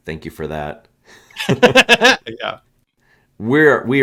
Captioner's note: laughs